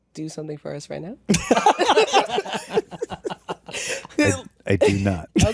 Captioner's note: all laughing